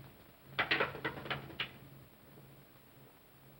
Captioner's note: cane clatters